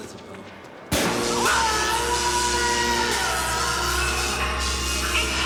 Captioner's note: screaming; buzzing; suspenseful music